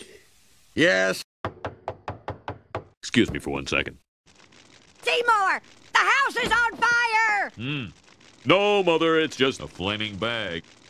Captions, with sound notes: Yes. [The door is being knocked] Excuse me for one second. Seymour, the house is on fire! Hmm... No mother, it's just a flaming bag.